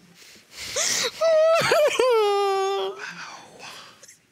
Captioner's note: sobs